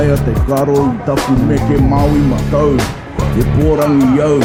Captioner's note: non-english speech